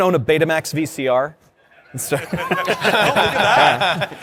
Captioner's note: laughter